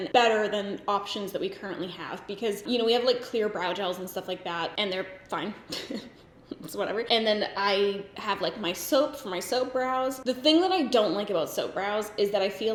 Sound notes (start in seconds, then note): 5.6 giggles